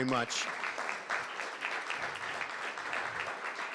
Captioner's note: crowd clapping